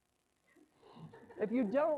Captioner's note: laughter